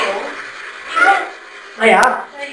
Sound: child's voice

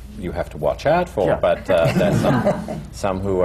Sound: laughter

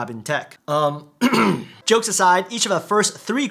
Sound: clears throat

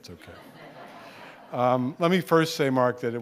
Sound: audience laughing

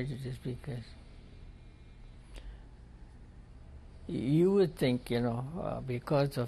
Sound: pauses for 3 seconds

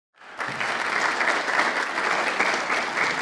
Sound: applause

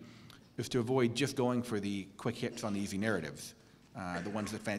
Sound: cough

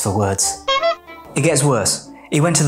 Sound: horn honking

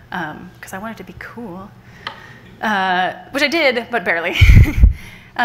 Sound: laughs

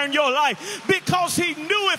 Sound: audience applauding

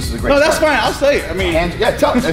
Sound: laughing

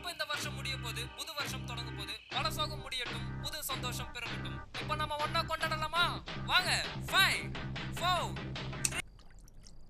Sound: radio playing

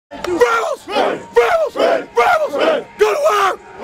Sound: chanting

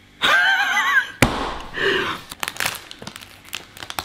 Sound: laughing

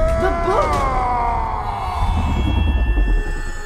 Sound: screaming in slow motion

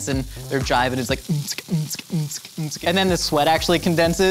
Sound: imitates rave

